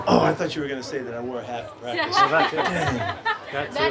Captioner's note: reporters laugh